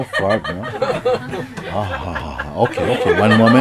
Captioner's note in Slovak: Smiech